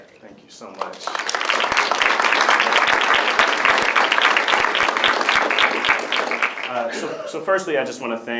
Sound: applause

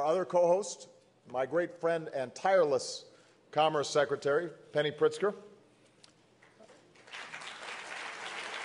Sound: applause

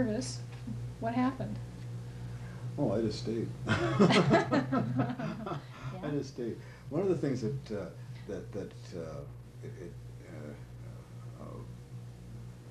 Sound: laughter

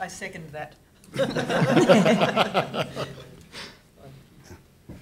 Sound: laughter

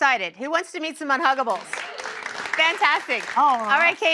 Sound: applause

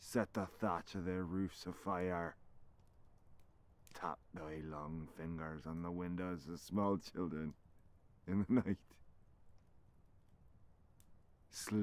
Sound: chuckles

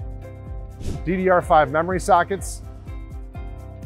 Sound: screen whooshing

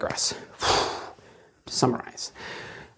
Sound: exhales dramatically

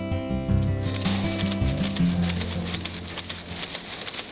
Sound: machinery running

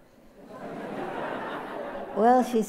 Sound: laughter

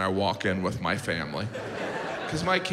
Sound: audience laughs

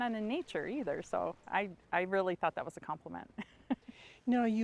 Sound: chuckles

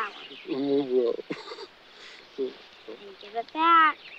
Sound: Bubba muttering

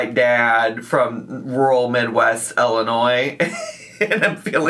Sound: laughs

